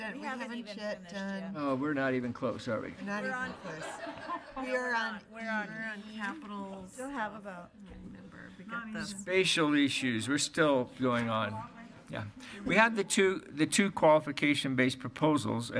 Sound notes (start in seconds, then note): 8.1 speaking faintly